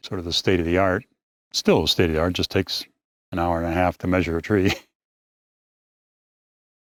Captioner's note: laughs